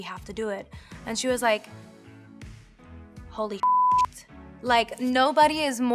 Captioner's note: beeps